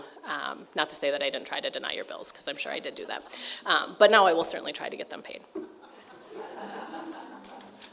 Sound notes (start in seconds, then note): 5.7 audience laughing